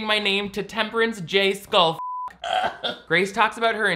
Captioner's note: beep; laughs